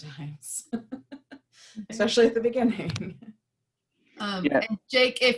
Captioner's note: laughter